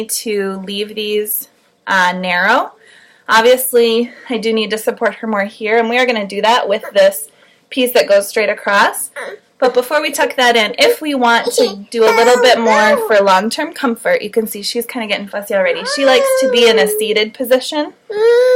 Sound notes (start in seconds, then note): 11.4 baby crying